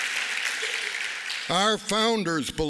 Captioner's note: applause